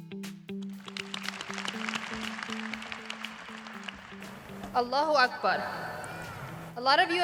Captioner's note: applause